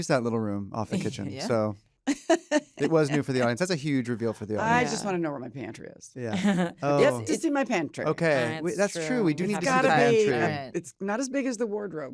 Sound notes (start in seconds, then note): 2.0 laughs